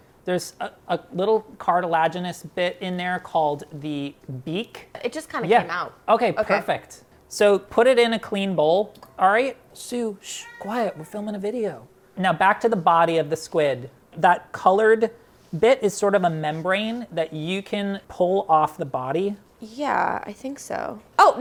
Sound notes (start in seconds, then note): 10.3 cat meowing